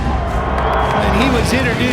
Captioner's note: crowd booing